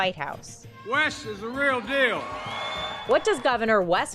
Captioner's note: audience cheering